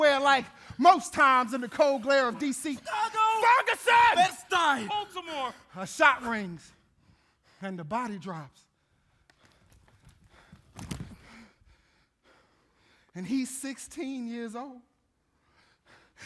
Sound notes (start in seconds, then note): 8.7 panting; 9.5 bodies thudding